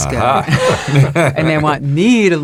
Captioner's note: all laugh